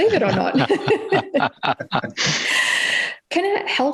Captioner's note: laughs